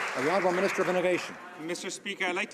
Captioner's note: some Applause